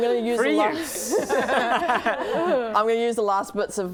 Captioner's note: laughing